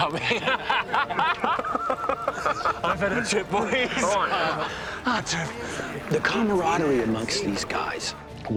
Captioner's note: both laughing